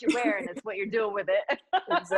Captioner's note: laughs